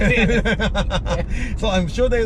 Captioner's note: both laugh